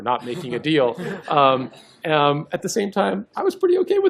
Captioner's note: laughter